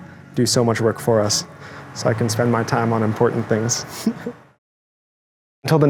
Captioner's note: laughing